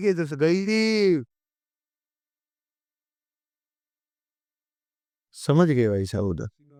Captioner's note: silence